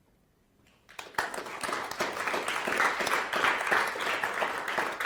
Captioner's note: audience applauds